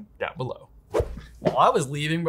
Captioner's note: whoosh sound plays